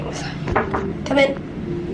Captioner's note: knock at door